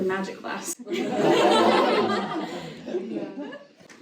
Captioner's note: audience laughter